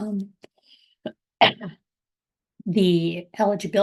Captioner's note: coughing